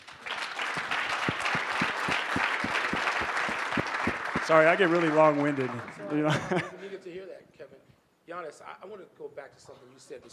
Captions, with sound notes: (audience applauding) Sorry, I get really long-winded. - It's (Kevin's laughter drowns out speaker) to hear that, Kevin. Giannis, I wanna go back to something you said